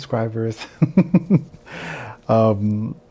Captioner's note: laughs